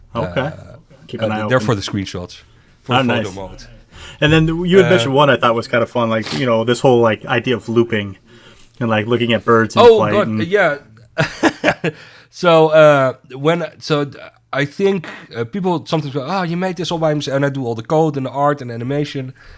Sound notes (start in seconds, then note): 11.2 laughs